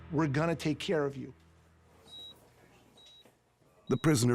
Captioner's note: monitor beeping normally